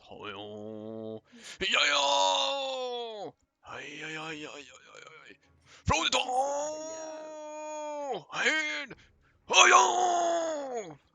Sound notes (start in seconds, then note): 8.0 haha